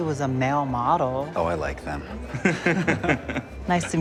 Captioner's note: chuckling